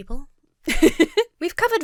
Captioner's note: laughs